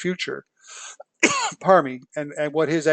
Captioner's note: cough